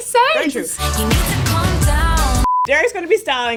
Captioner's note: beep